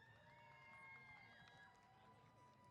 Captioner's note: cheers